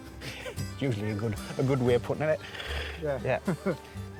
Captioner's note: laughs